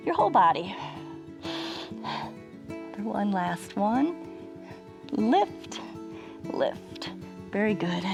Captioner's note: inhales and exhales